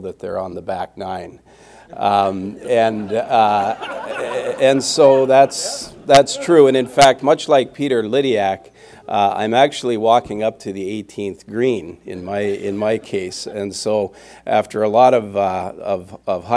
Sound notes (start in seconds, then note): 2.5 laughter